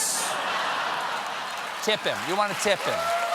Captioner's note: laughter